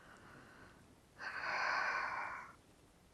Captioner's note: sighing